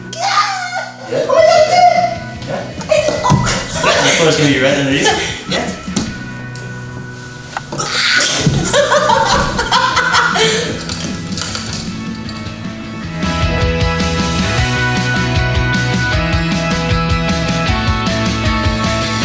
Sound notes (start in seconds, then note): 7.9 laughs loudly; 13.6 energetic music